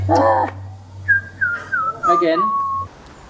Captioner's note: comical Whistling